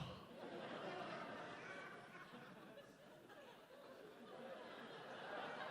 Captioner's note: audience chuckles